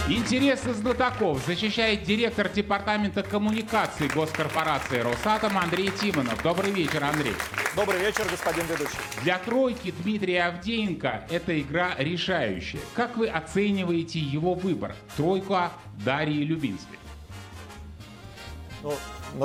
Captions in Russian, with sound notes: Интерес изков защищает директор департамента коммуникаций госкорпорации Росатом Андрей Тимонов. [аплодисменты] Добрый вечер, Андрей. Добрый вечер, господин ведущий. Для тройки Дмитрия Авдеенко это игра решающая. Как вы оцениваете его выбор? Тройка Дарьи Любинской. Ну,